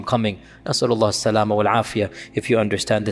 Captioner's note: Arabic